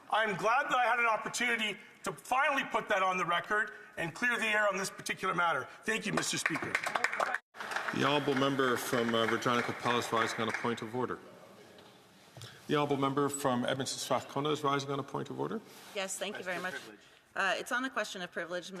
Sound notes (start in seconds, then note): 11.7 some Applause